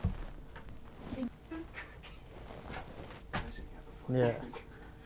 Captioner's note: woman laughing